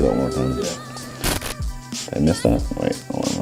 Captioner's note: static sound